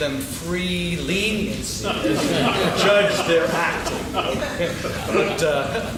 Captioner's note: laughing